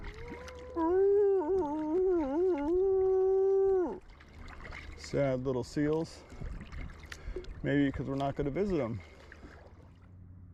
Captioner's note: howling like a seal